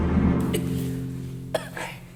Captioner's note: coughs